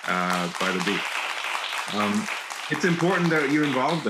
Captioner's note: audience applauding